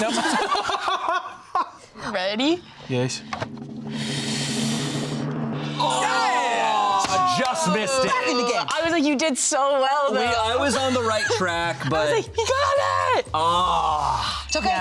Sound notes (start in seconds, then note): 0.0 laughs; 3.4 pensive music; 3.9 all gasping